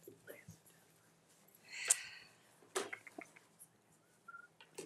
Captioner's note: speaking faintly